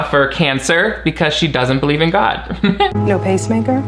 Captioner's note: chuckles